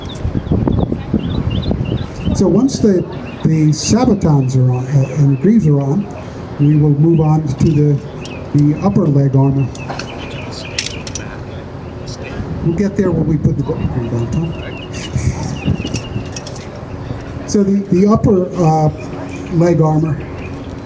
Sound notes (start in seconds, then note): 15.2 laughs